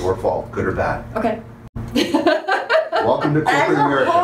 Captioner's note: laughter